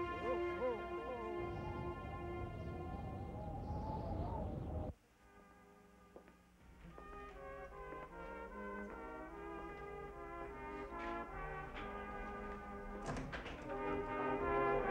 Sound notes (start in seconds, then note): 2.1 wind blows; 5.0 festive orchestral music